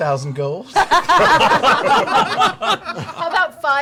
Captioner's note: laughter